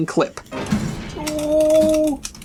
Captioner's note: clicking